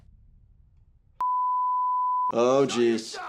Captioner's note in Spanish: pitido